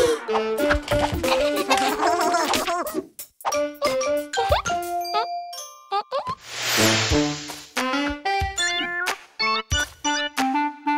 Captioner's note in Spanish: Música alegre; Risas